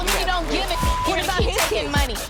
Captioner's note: beeping